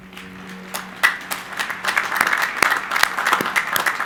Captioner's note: crowd applauding